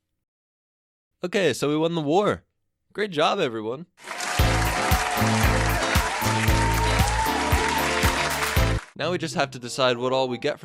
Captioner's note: cheering